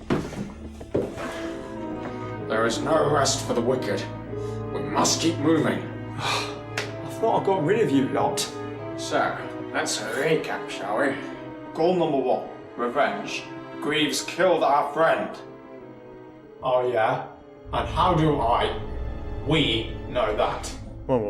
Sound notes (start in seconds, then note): 6.1 sighing